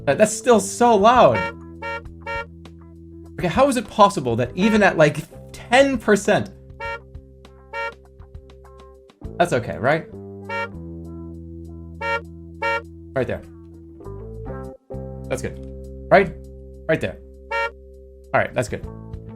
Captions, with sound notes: That's still so loud— [honk] [honk] [honk] Okay, how is it possible that even at like 10 percent... [honk] Okay, how is it possible that even at like 10 percent... [honk] [honk] That's okay, right? [honk] [honk] [honk] Right there. That's good. Right? Right there. [honk] Alright, that's good.